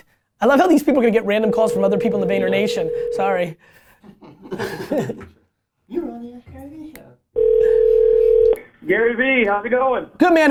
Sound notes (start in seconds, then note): 3.6 phone ringing; 3.8 laughter